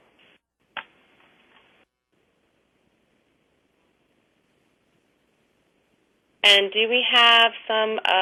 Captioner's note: pause